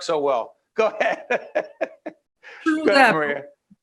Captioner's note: laughing